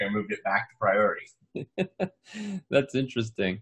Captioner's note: laughing